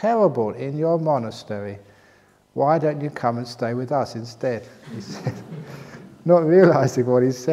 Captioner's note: laughter